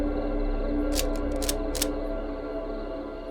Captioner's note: cocks rifle